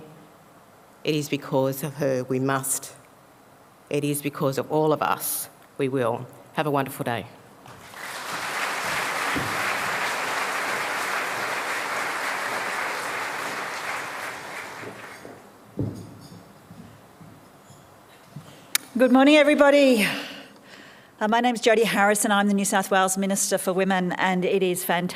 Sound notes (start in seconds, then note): 12.0 applause